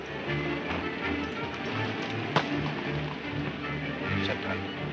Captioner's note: hoof beats and running footsteps